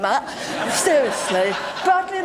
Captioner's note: laughter